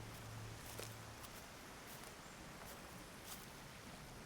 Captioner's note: rustling water